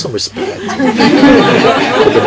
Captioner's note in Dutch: meer gelach